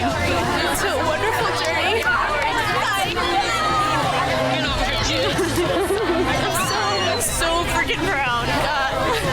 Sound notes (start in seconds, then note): 2.4 upbeat music; 2.4 women cheering